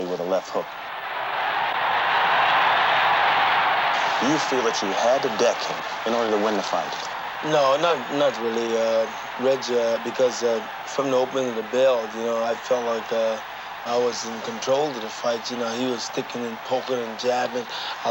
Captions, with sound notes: with a left hook. (crowd cheering) You feel that you had to deck him in order to win the fight? - No, not really, Reggie, because from the opening of the bell, you know, I felt like I was in control of the fight. You know, he was sticking and poking and jabbing,